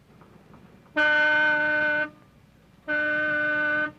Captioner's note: horn honking